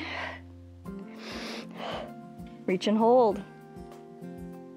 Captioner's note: inhales and exhales